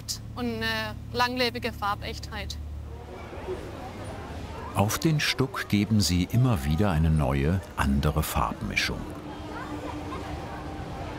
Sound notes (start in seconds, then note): 3.3 bubble of voices; 9.2 bubble of voices